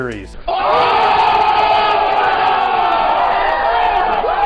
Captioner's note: cheering